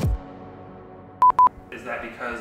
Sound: beep beep

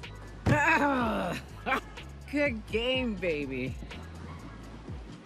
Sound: groans

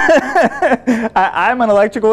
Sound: laughing

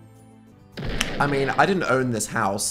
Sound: explosion

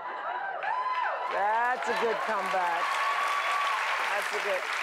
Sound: cheering

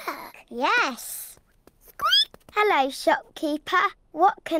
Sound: squeaks

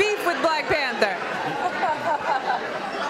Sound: laughter and talking

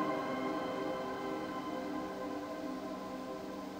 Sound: river flowing

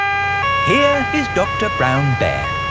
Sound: siren wailing

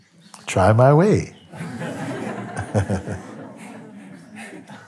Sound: laughter

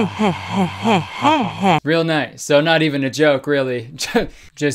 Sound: laughs

